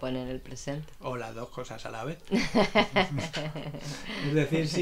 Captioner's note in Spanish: risas